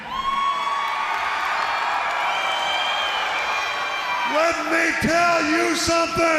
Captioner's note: crowd cheering